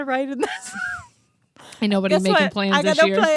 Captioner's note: laughs